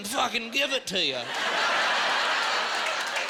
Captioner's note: laughing